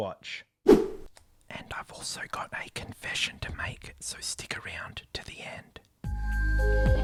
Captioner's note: whispering